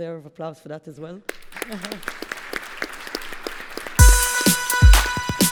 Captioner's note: applause